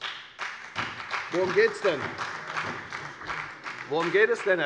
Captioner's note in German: Beifall bei der FDP